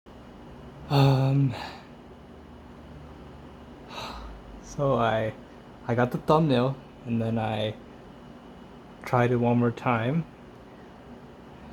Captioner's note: deep sigh